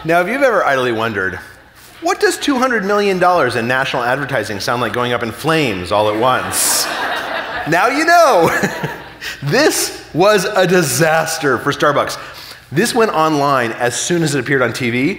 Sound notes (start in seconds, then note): 5.9 audience laughing; 8.7 chuckling